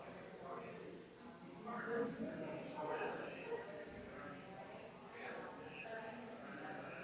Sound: people chattering distantly continues

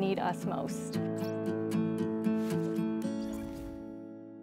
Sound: digital Woosh; music fades

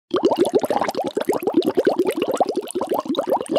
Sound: bubbling

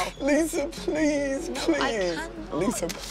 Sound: sobbing

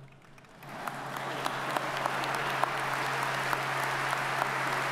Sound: audience applauds

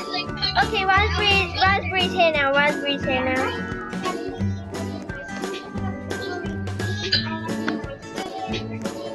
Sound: laughs

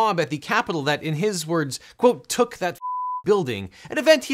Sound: beep

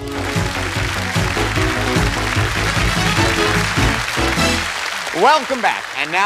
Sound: cheers and applause

